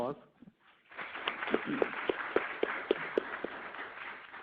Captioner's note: audience applauds